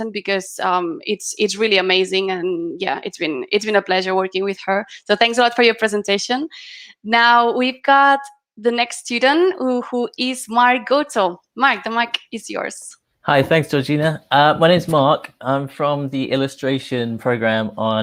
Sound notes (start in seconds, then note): none